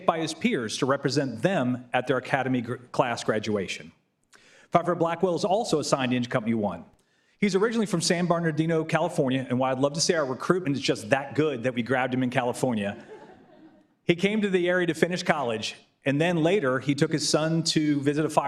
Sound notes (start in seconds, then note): 12.8 laughter